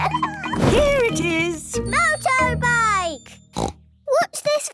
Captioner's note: snort